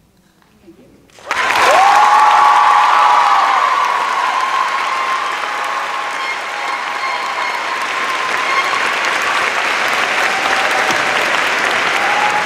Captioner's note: cheers and applause